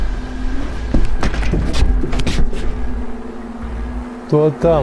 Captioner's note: door closes